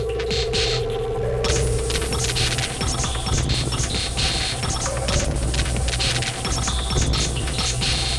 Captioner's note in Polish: Wysoki, miarowy, metaliczny szum; Częste, szklane uderzenia